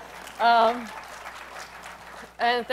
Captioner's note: applause